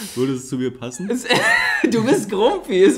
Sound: laughs

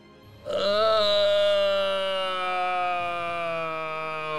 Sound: groans

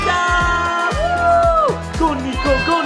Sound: yelling

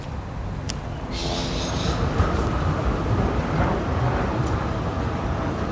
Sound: city scape sound intensifies

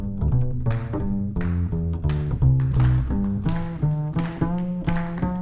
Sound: clapping rhythmically

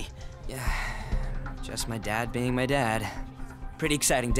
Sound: sighs

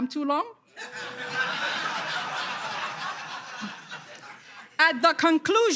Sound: audience laughter

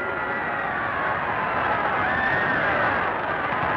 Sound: bell rings

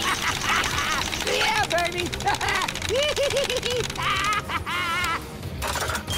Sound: laughing

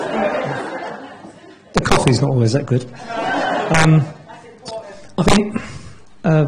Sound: laughter

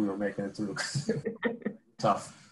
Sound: laughing

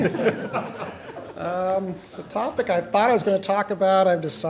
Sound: laughter

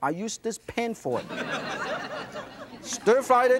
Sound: audience laughs

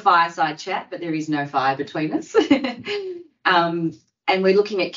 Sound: she laughs

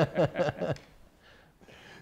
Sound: laughter

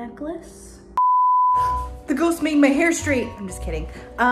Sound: beep

